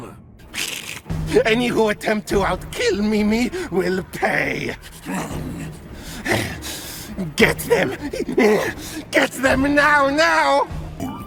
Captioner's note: psychotic giggling